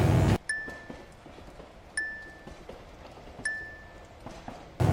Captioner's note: electric buzzing; bell dings